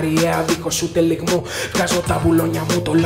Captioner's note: gasp